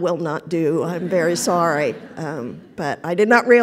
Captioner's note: laughter